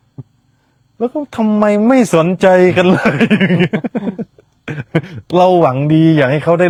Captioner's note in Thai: เสียงหัวเราะ